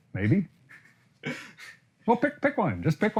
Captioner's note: laughs